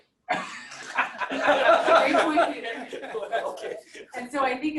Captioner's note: laughter